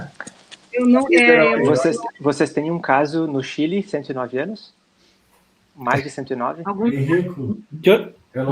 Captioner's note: multiple voices